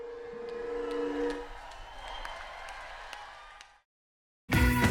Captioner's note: applause